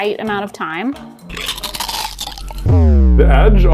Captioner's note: dramatic music; cookie crunching